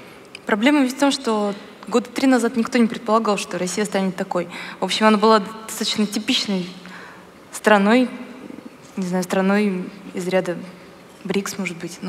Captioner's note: foreign Language